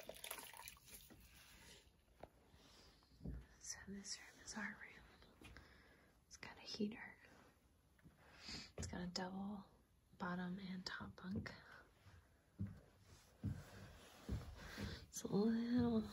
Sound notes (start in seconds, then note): 0.9 whispering because it's so quiet!